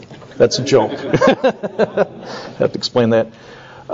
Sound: laughs

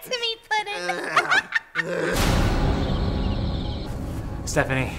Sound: Harley laughing; Joker grunting

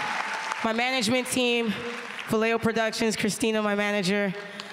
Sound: applause

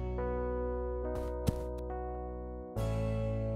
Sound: thud

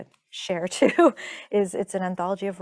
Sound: chuckling

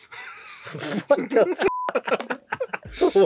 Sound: speaking in Korean; beep; speaking in Korean

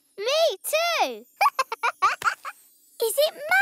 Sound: laughs

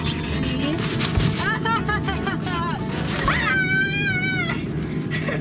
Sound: scream

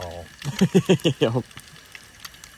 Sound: laughter off screen

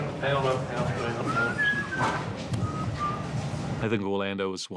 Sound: bloom whistling

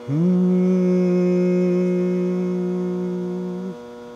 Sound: humming

